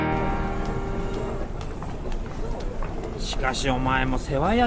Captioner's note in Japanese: 街の音